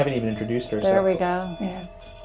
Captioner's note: EMF beeping